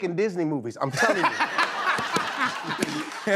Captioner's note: laughter